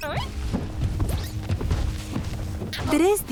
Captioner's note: footsteps